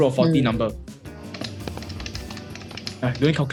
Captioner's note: calculator clacking